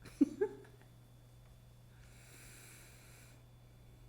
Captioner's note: laughing